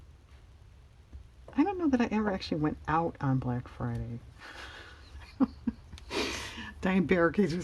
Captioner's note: laughs